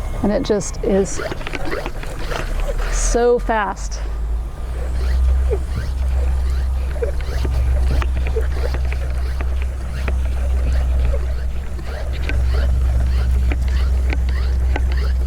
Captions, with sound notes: And it just is so fast. (equipment squishing)